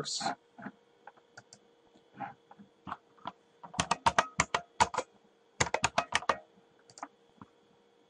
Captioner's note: typing